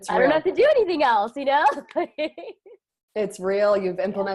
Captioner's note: laughing